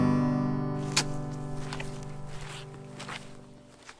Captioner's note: walking on wet bog